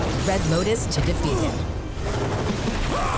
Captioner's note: grunting